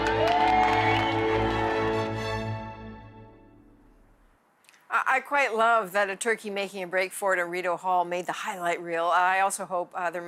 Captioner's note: applause